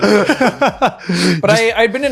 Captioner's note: laughing